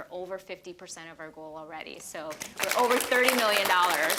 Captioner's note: applause